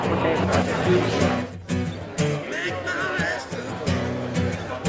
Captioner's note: crowd chattering